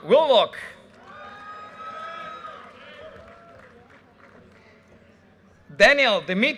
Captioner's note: audience cheers and applause